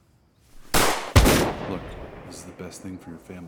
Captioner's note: gunshots